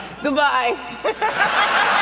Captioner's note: laughter